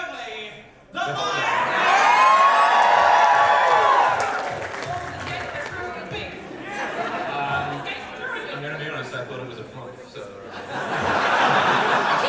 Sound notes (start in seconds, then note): 1.4 audience wooos; 10.4 audience laughter